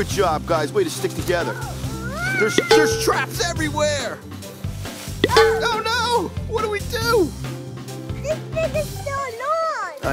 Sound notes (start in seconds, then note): 2.5 can clangs; 5.2 can clangs